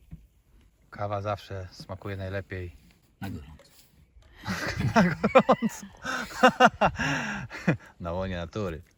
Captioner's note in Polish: śmiech